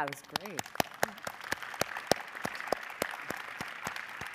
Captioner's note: audience applauding